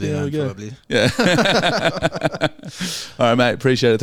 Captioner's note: laughing